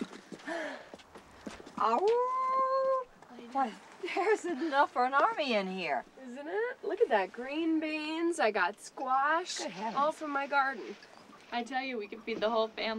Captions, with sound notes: [howling] THERE'S ENOUGH FOR AN ARMY IN HERE. ISN'T IT? LOOK AT THAT, GREEN BEANS. I GOT SQUASH. GOOD HEAVENS. ALL FROM MY GARDEN. I TELL YOU, WE COULD FEED THE WHOLE FAMILY WITH THIS.